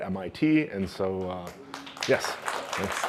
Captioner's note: applause